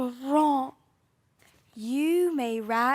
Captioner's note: silence